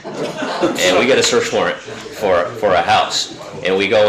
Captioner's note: audience laughing